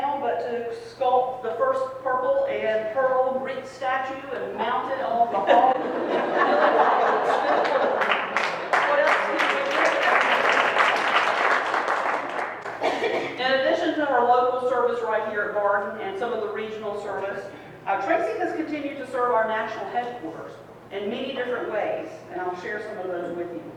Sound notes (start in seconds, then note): 5.2 people laughing; 7.2 crowd claps